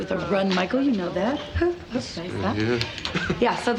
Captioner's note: mutters